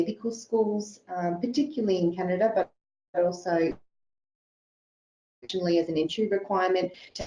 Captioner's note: audio distorts